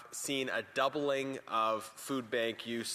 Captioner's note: speaking French